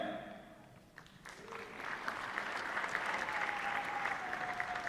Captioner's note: applause